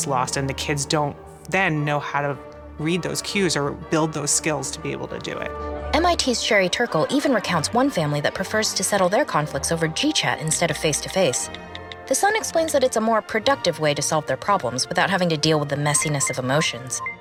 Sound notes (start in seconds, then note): 5.4 voiceover